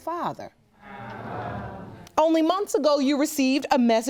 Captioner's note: audience groaning